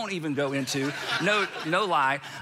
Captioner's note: congregation laughing